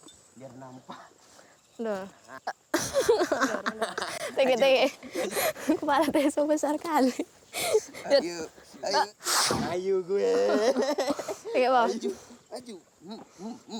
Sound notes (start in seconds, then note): 2.7 laughter; 4.5 conversing in foreign language